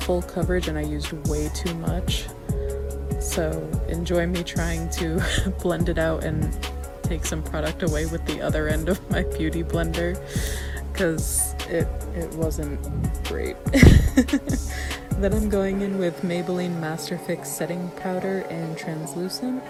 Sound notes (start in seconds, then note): 4.0 laughs; 10.2 winces; 13.7 chuckles